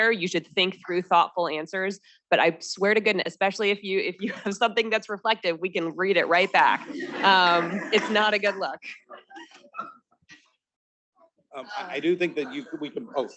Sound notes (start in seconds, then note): 6.4 students laughing